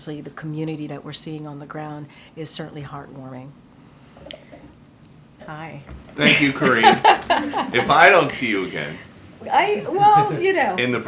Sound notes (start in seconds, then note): 6.2 laughter